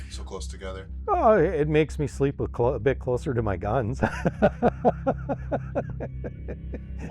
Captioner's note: chuckles